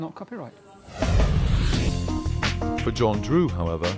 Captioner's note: whooshing